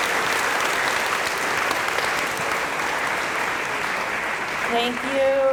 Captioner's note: applause